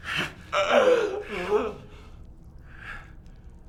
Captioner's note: groaning